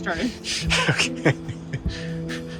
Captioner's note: laugh